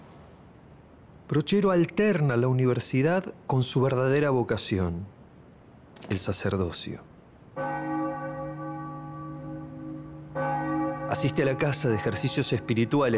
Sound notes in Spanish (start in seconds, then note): 7.6 Repique de campanas